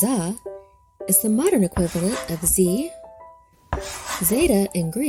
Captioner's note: chalk scratching